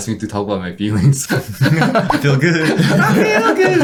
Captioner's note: everyone chuckles; sings